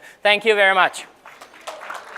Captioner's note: applause